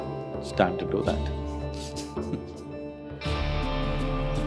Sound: laughs

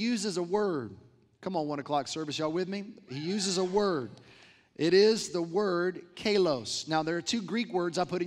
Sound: crowd replies

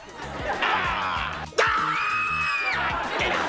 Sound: screaming

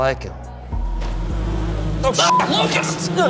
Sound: insects buzzing; beep

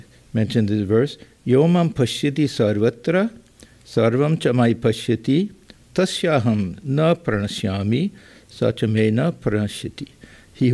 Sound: non-english speech

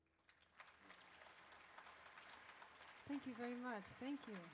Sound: audience claps

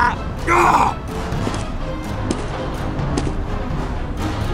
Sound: footsteps

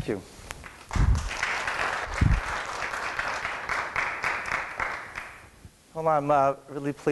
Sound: applause

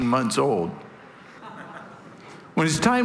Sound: congregation laughing

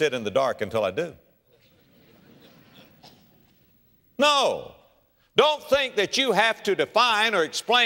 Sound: audience laughter

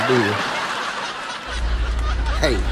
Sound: laughs

